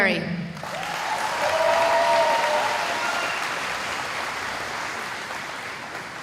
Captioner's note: cheering